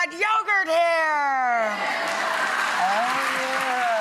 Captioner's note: cheers and applause